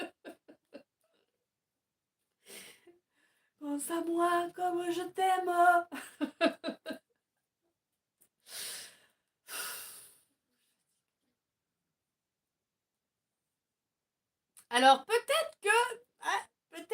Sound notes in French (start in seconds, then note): 3.0 rires; 11.9 rires